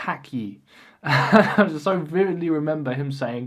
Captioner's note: laughs